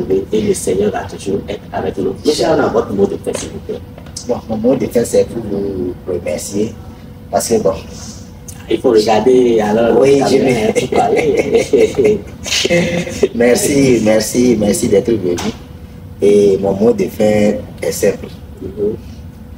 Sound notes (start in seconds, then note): 10.1 laughs